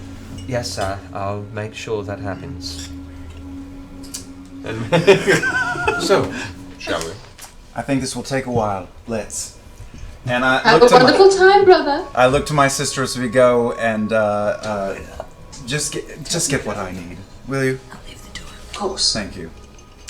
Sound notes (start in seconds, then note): 4.4 laugh